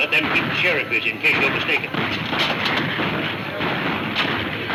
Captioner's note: gunfire pops